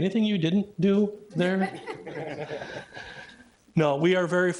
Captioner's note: everybody laughing